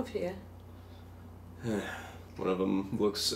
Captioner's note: deep sigh